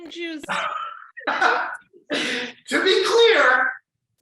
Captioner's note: chuckles loudly